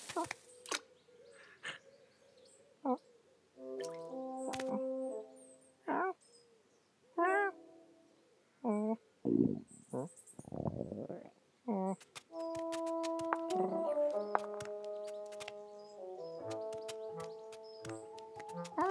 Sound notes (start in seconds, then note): 1.4 sigh